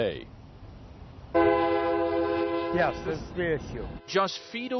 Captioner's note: train horn